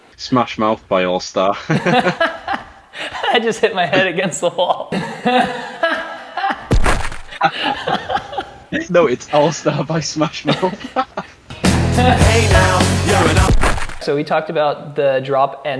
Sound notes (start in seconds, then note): 1.7 both laughing; 5.1 smashing sound; 10.2 laughing; 12.8 smashing sound